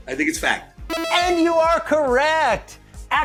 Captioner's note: correct buzzer noise